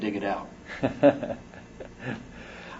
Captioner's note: laughs